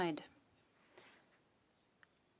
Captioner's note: speaking French